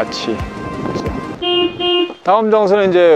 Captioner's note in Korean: 자동차 경적 소리